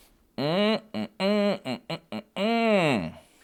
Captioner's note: humming